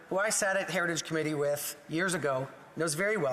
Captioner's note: speaking French